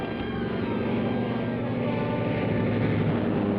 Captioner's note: engine buzzing